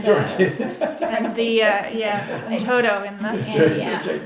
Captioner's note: laughing